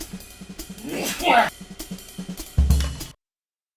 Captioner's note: big sneeze